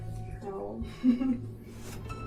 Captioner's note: giggles